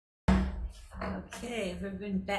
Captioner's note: gavel bangs